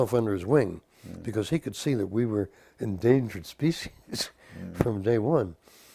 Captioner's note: laugh